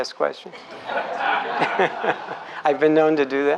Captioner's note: laughs